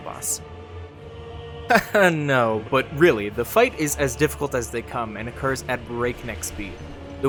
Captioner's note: laugh